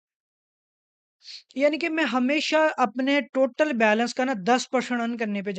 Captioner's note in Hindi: नाक से की जाने वाली आवाज़